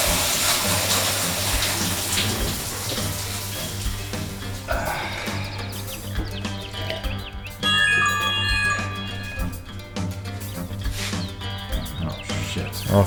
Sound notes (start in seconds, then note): 4.7 Manny sighs/groans in pain; 7.6 smart notification chimes